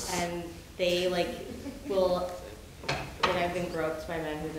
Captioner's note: woman's Voice